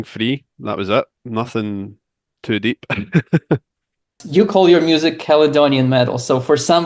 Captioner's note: laughs